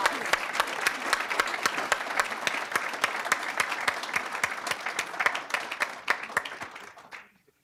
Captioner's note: applause